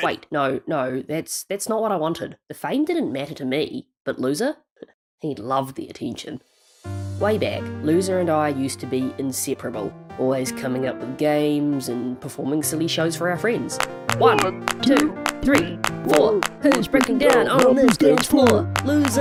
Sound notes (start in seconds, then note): 7.5 narrating